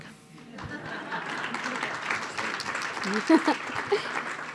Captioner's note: applause